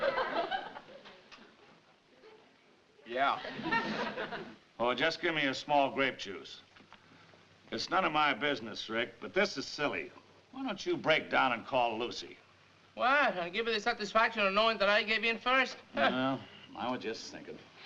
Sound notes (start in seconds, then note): 3.4 audience laughing